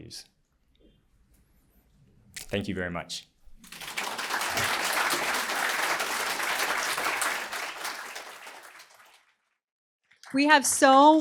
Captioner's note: applause